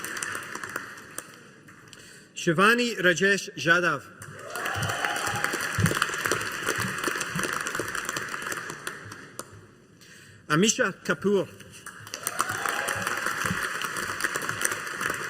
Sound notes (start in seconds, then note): 4.2 audience applauding; 11.8 audience applauding